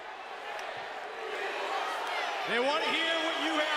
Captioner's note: crowd chatter